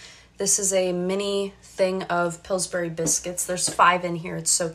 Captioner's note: none